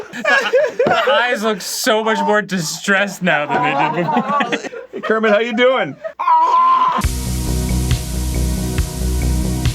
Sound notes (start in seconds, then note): 6.1 unfortunate gargling